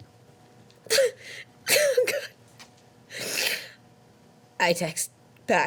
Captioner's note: Annabelle hard sobbing